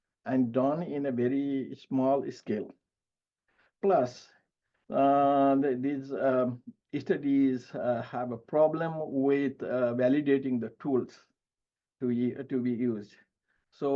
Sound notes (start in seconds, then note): none